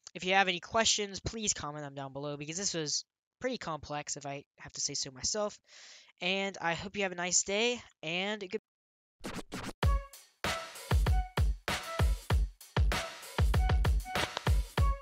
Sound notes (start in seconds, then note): 9.2 record scratches; 9.8 upbeat music playing